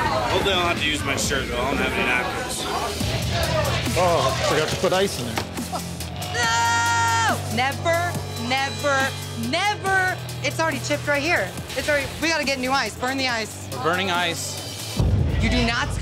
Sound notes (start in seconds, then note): 3.0 upbeat music; 5.6 chuckle